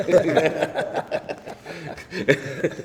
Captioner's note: laughter